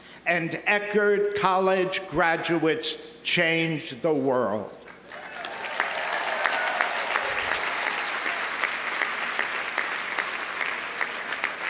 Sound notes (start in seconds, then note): 5.0 audience applauding; 5.1 audience cheering